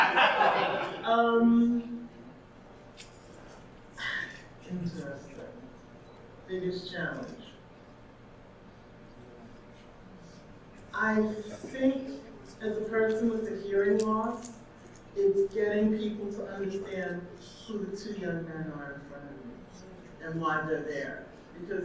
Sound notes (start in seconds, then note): 0.0 audience laughing; 4.0 sighs